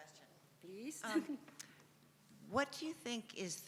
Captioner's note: chuckles